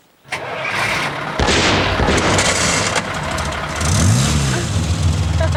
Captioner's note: engine starting, backfiring; chucklin